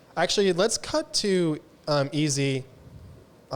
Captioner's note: none